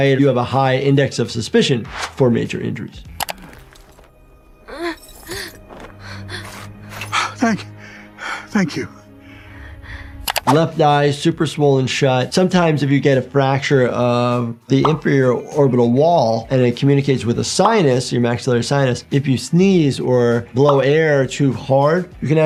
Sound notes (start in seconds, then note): 3.1 mouse clicking; 4.6 Atom Eve groaning